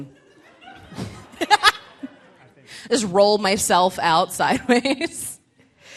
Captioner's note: laughs